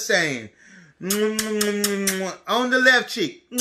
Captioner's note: kisses